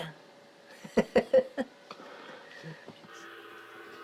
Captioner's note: laughing